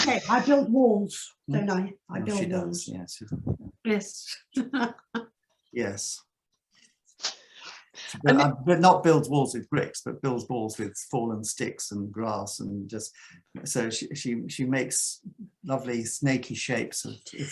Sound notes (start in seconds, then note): 4.6 laughs